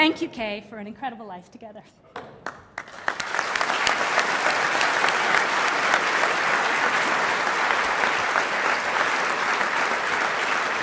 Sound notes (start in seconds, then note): 3.1 applause